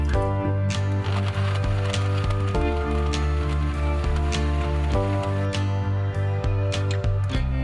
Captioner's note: blending sounds